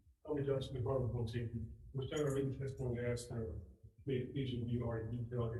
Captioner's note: man speaking faintly off mic